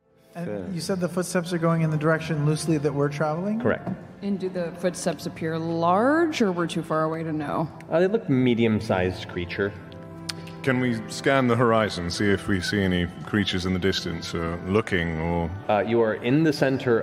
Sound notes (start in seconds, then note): none